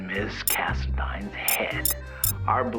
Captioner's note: comments start beeping in